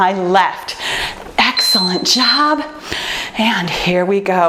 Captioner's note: timer beeps